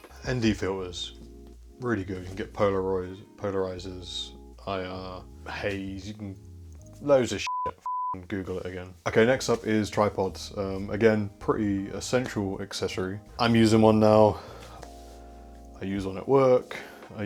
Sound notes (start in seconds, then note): 7.4 beep